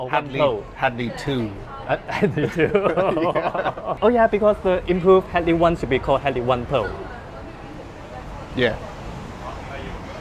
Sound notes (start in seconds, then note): 2.1 both laugh